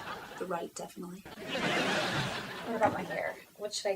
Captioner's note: audience laughing